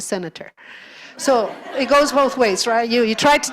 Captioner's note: audience laughter